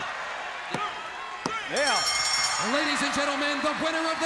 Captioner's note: bell ringing